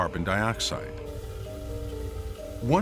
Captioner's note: bubbling